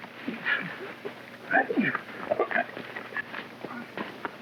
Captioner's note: men grunting